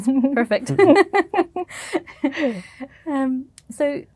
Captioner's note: laughter